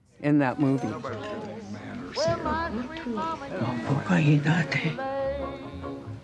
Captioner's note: women speaking in Native language